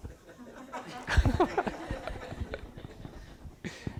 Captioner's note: everyone laughs